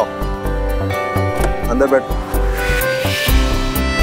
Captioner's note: Door opens